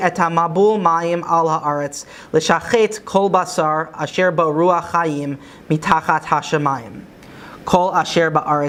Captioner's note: Hebrew